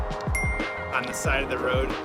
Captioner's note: bell dings